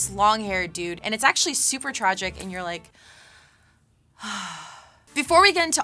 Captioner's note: sighs